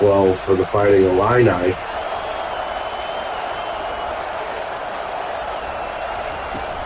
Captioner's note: crowd cheering